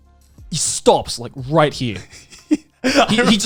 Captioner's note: laughing